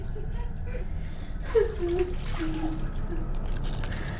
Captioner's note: woman sobbing